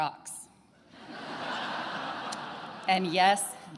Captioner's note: attendees laughing